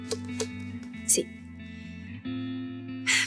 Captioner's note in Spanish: Toques ligeros en la madera